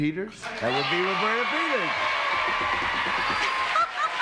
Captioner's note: cheers and applause